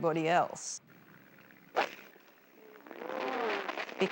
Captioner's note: whacking